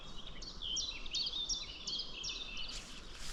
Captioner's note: birdsong